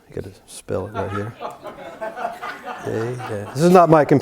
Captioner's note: laugh